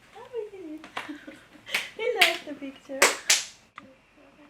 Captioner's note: clapping